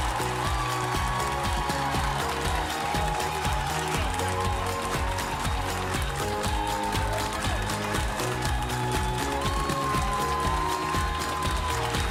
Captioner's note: applause